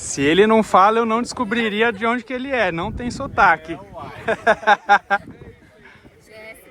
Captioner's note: laughs